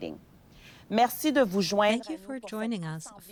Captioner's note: speaking French